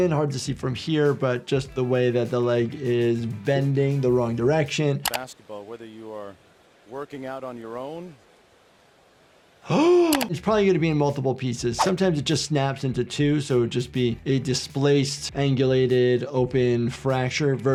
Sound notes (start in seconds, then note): 5.0 video clicks; 9.6 gasps; 11.8 audio whooshes